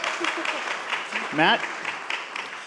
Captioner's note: audience applauds